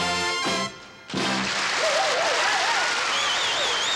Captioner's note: applause